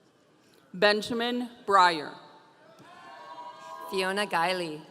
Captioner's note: audience cheering